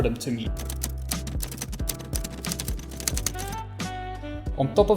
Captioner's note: keys clacking